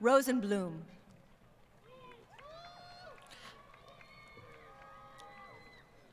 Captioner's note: crowd Cheering & Applause